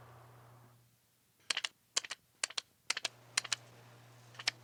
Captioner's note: tape machine clicking